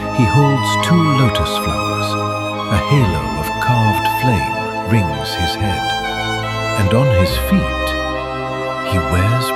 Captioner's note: thoughtful